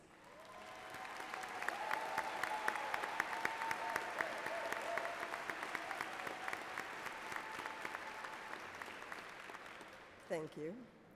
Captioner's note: cheers and Applause